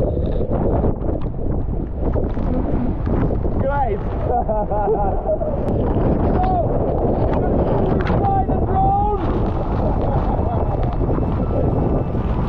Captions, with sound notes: - Great. (laughs) - So, should we fly the drone?